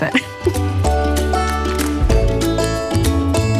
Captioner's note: laughs